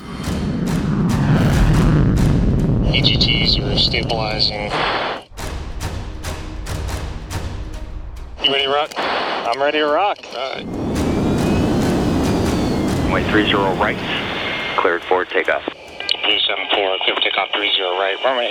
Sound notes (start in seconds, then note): 0.1 jet whooshing; 0.2 dramatic music; 5.4 dramatic music; 10.5 engines whooshing